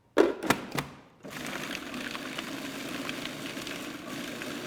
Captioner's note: blender sounds